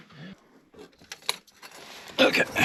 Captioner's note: object clanking